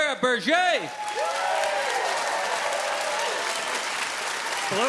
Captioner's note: audience cheers loudly